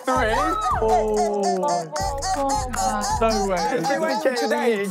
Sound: cheering

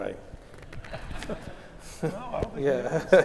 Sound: laugh

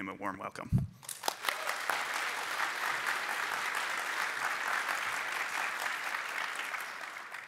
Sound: applause

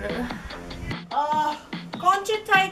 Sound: sighs

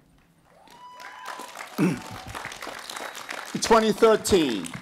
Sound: applause

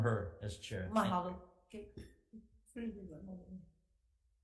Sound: murmurs

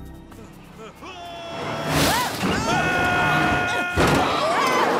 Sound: Launchpad and Huey screaming

